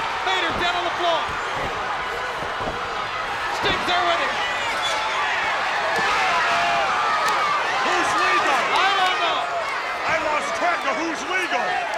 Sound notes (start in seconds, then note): 2.1 spectators cheering; 5.3 spectators cheering